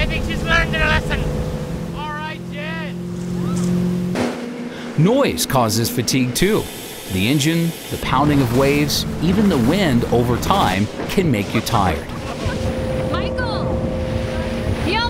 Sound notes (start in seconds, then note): 1.9 yelling